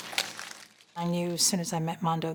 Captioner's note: paper crumpling